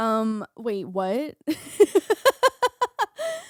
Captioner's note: laughing